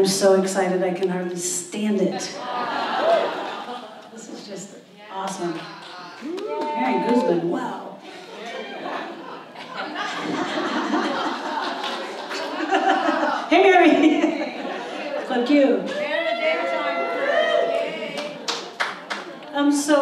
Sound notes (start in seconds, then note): 5.8 audience cheers; 8.1 audience laughs; 18.1 applause